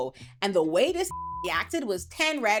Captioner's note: beep